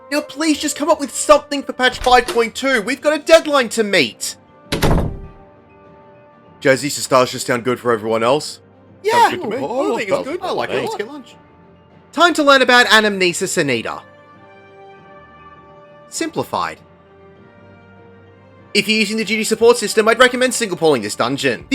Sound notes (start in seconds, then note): 4.7 door closes; 9.0 mummering agreement